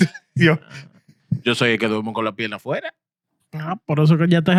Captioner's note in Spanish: Hablando en idioma extranjero